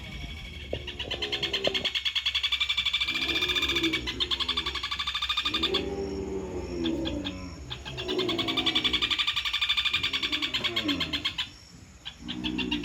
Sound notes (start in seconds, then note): 2.2 cattle mooing, birds singing